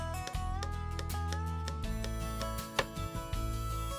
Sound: hammering noise

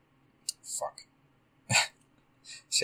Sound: laugh

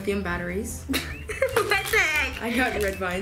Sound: laughing

